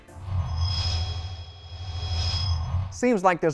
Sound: sound Effects

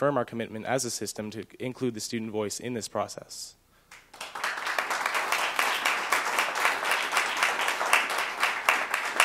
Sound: applause

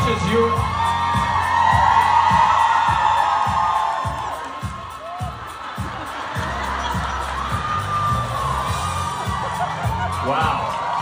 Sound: ปรบมือ

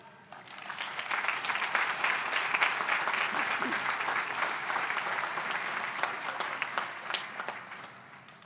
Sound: applause

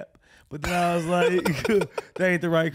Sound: laughing

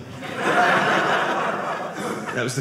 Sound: audience laughing

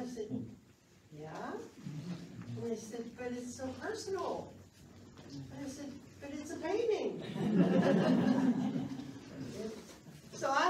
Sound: laughs

